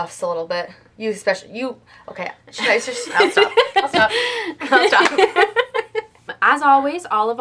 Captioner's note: laughter